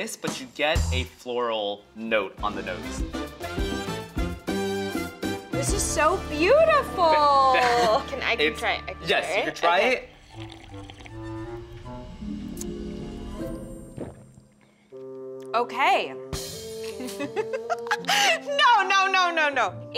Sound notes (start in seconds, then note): 9.9 slurps lightly; 10.5 playful music; 16.9 laughs